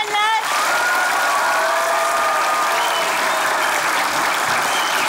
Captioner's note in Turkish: Alkış ve ıslık sesleri